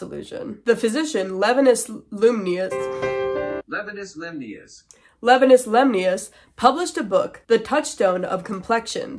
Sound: stammering; sad piano; computer Voice

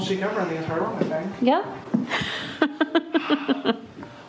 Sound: laughing

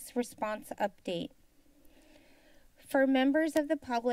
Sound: silence

